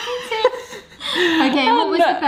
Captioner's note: laughs